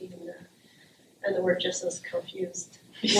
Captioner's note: laughter